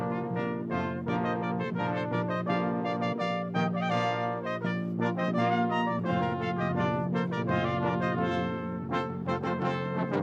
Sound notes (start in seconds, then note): none